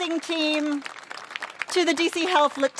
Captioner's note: applause